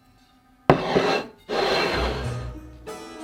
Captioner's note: bowl sliding